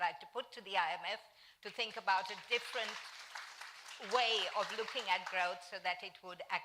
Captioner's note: applause